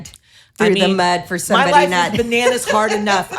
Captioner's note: laughs